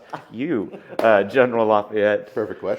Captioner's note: laughs